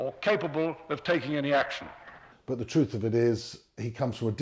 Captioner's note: voiceover